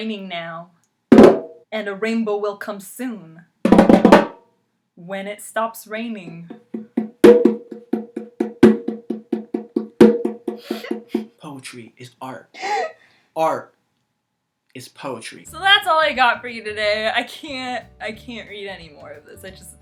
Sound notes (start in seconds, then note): 0.4 drumming; 6.2 steady drumming; 8.0 laughing